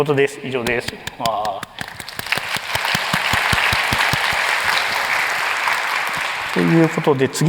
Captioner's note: applause